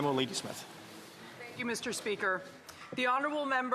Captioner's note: speaking French